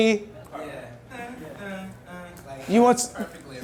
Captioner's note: voiceover